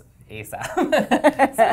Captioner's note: laugh